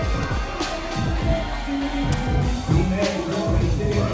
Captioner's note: crowd cheering